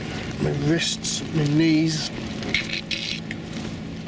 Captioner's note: makes creaking noise